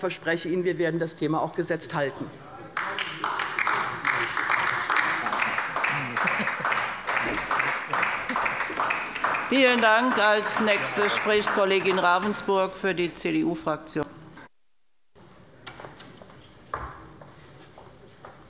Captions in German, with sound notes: Ich verspreche Ihnen, wir werden das Thema gesetzt halten. [Beifall bei der LINKEN - Zurufe von der CDU] Vielen Dank. - Als Nächste spricht Kollegin Ravensburg für die CDU-Fraktion.